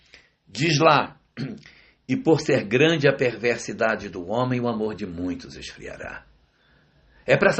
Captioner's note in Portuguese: limpando a garganta